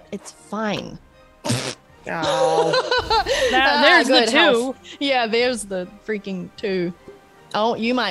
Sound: laugh

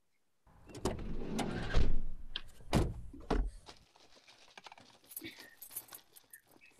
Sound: van doors opening, keys rattling, the engine starting

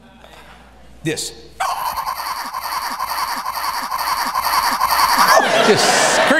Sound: xenoraptor screech

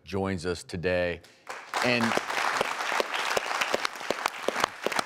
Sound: audience applauding

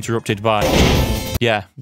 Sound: thud

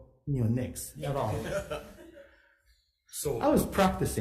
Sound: all laughs

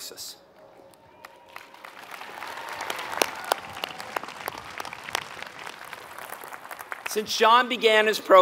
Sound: applause

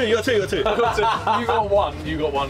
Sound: laughing

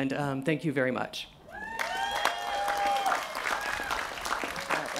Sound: cheering

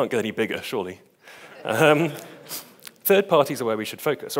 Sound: audience laughs

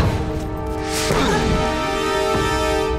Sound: grunting

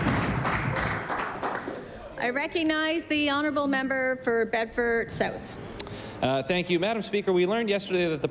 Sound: applause

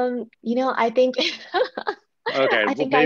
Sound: laughs

